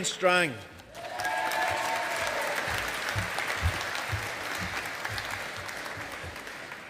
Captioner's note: audience applauding